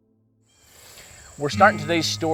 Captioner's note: cricket chirping